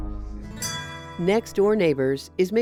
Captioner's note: guitar thrumming; chime ringing